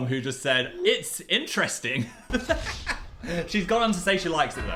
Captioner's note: laughs